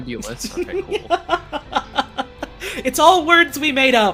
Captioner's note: laughing